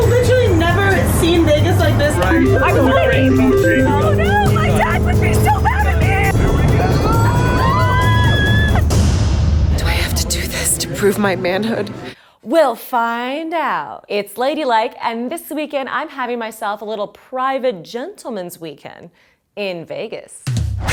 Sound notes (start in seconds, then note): 1.0 game sounding; 7.0 screaming; 9.4 explosion booming; 20.7 upbeat music